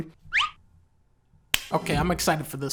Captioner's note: clap